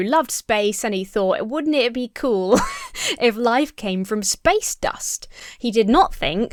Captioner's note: laughs